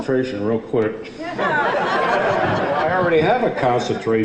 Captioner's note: audience laughs